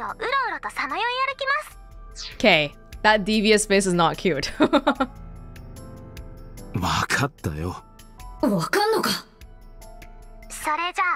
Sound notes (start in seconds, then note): 4.5 chuckles